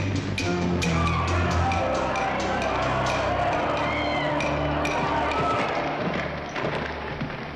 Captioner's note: ominous suspenseful music; commotion & screaming; ominous suspenseful music